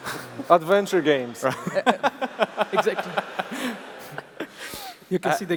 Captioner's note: laughs